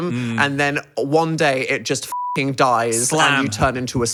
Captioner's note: beep